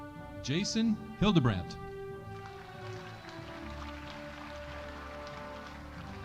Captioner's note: audience applauding